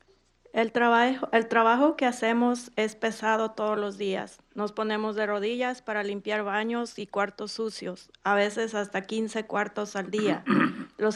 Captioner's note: speaking in Spanish